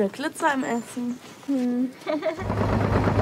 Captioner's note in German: lachen